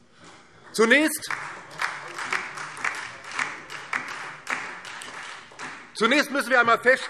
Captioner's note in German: Beifall DIE LINKE und Freie Demokraten